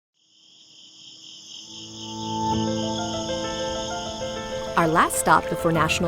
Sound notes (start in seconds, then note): 0.1 cicadas chirping; 1.8 gentle music